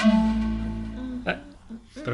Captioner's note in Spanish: corta el rollo, tarareando